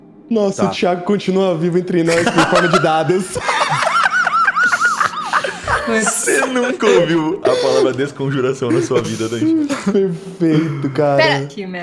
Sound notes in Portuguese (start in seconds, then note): 4.8 Risos